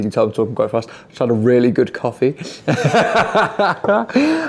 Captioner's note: laughs